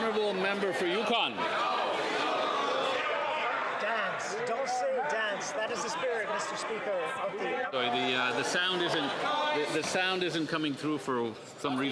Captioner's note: speaking French